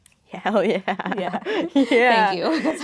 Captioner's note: laughing